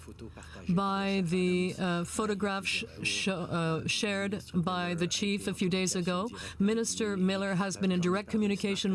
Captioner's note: speaking French